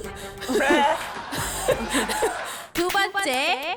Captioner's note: annoyingly clapping